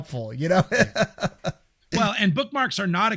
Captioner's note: laughing